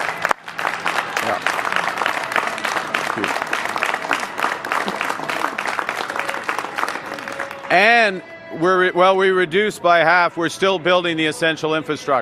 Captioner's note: applause